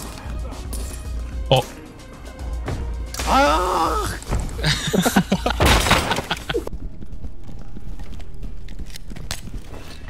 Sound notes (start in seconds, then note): 3.2 painful scream